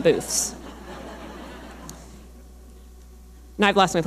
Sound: audience laughing

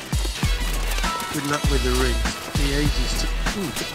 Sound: mutters under breath

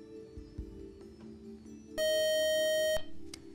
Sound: time-out buzzer

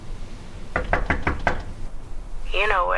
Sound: knocking on door

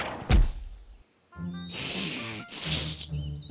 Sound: sniffs

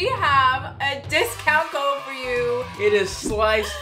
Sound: children cheering

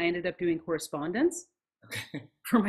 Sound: laughs

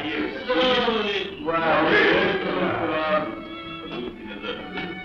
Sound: speaking 'foreign' language

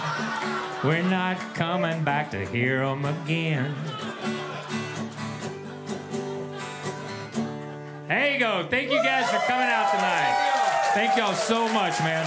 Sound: applause

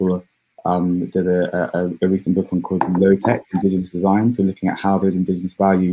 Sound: erm

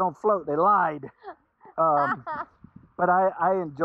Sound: laughing

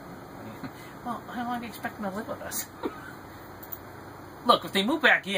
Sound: laughs

